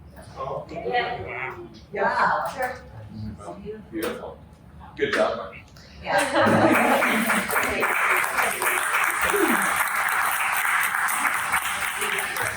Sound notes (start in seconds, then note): 6.2 laughter and applause; 8.5 applause